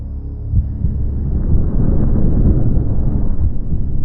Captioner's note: heart beating